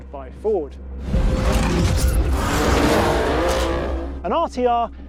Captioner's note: car engine revving